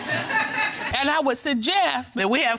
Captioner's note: audience laughing